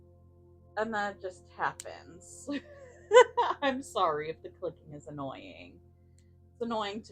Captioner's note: apologetic laughter